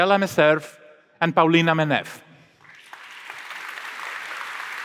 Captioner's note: applause